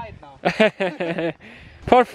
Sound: laughter

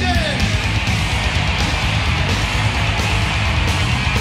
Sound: audience cheering

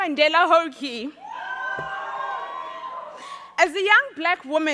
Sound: audience cheering

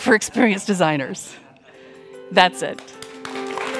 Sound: applause; inspirational tones

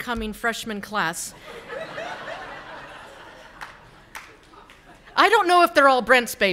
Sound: audience laughing

